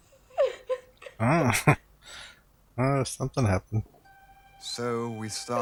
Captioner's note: chuckling